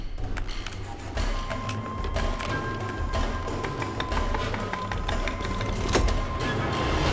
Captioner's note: puzzle box clicking